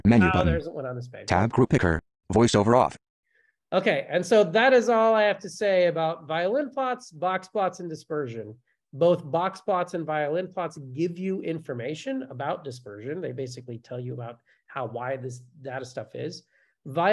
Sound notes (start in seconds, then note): 1.7 voiceover